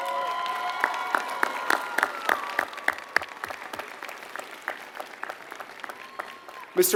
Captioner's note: applause